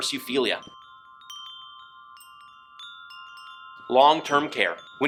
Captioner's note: wind chimes chiming